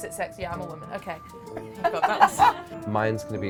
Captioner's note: laughing